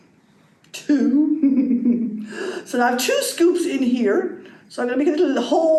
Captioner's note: giggles